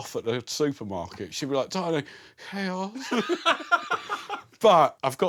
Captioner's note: laughs